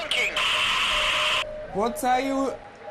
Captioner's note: staticky buzzing